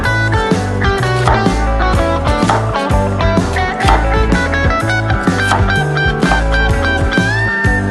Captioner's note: let's make stir-fried fishcake. The sound of chopping onions; chop some onions. The sound of chopping onions